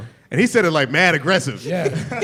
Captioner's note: laughter